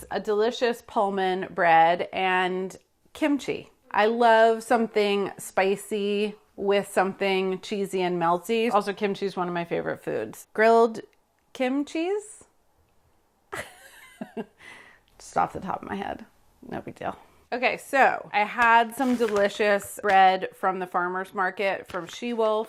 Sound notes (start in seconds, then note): 13.7 laughs